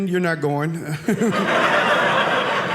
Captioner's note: audience laughing